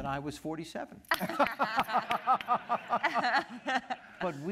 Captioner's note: laughter